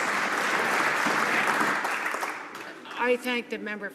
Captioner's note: some Applause